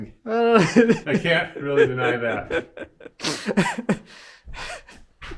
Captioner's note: laughing